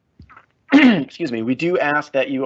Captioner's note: clears throat